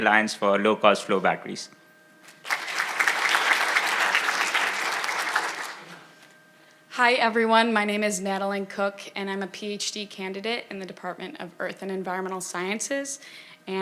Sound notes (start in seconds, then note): 2.4 audience applauding